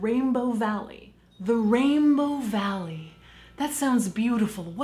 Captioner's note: bells tinkling